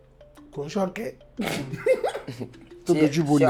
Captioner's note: laughs